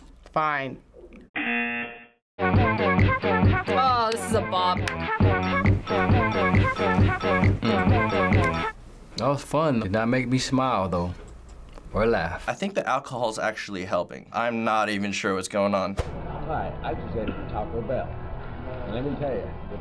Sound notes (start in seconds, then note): 1.4 buzzer; 5.4 glass clinking rhythmically